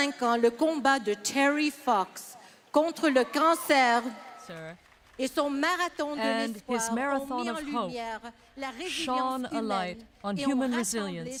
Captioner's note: speaking French